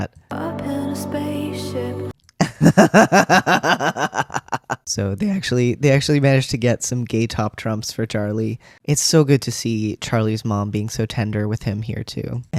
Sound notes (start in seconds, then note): 2.4 laughter